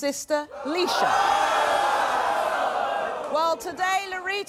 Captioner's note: audience groaning loudly